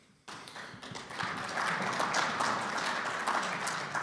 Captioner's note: audience clapping